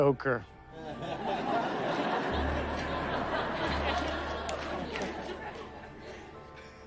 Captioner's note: audience laughs